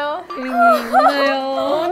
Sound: tearing up

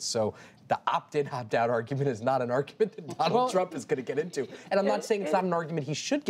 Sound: laughs

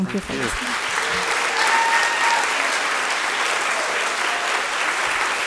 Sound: attendees applauding

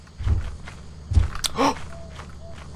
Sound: gasp

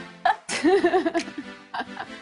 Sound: laughing; laughs

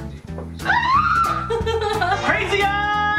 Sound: laughs sadly

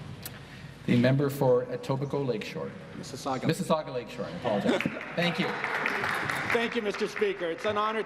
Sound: applause

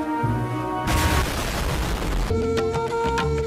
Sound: explosion sound

